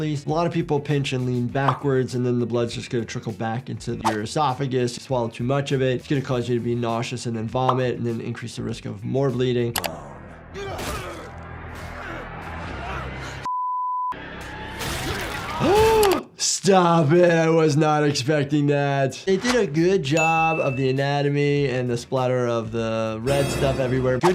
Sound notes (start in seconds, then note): 10.6 grunting; 15.0 gasps